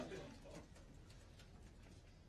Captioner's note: laughter